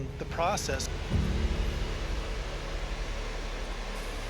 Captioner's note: waterfall running